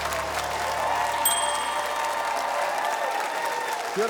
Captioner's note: ding!